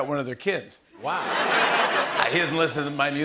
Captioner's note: laughter